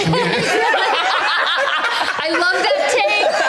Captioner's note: all laughing